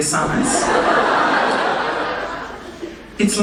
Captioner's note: audience laughing